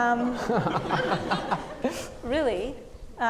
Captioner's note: audience laughing